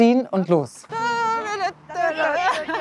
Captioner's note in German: Sie lachen